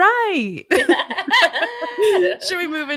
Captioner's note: laughing